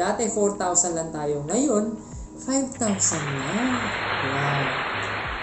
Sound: self-aggrandizing applause

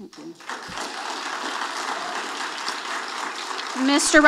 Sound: audience applauding

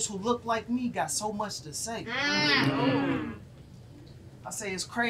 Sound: audience moans

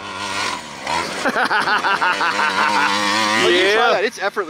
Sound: laughs

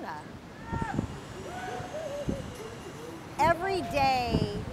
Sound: yelling

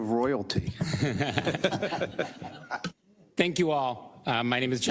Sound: laugh

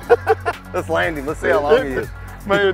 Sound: laughter

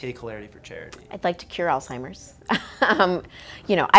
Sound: laughing

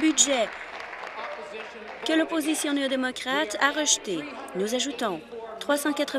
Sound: applause

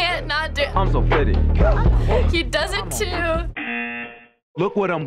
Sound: buzzer

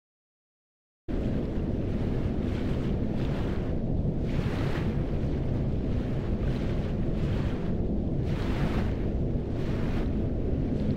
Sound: sound of wind

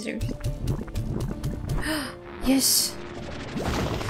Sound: gasp

